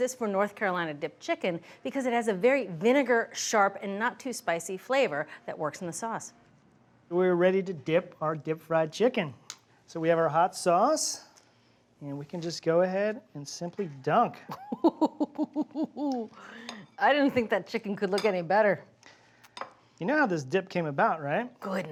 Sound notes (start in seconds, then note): 14.5 Julia laughs